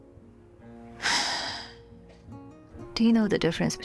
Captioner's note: Tallulah sighs